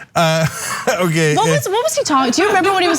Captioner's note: laugh